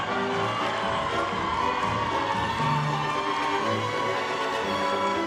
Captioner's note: cheers and applause